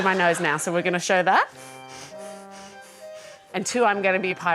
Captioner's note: breathes loudly through nostrils